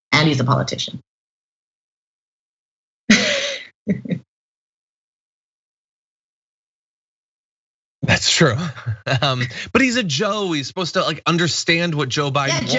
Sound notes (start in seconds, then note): 1.1 laugh